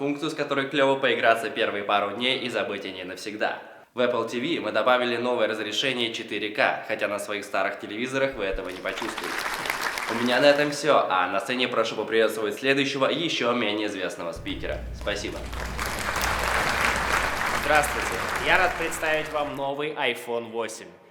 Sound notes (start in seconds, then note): 8.4 applause; 14.4 applause